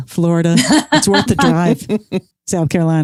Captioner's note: laughs